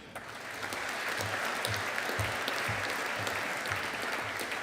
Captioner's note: audience applauding